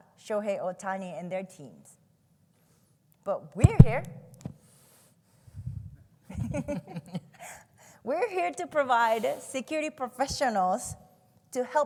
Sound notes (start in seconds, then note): 3.6 low beating sound from microphone; 6.3 chuckle